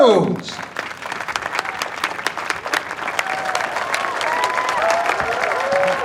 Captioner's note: audience applauding and cheering